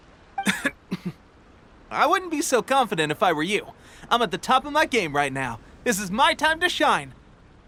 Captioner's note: clears throat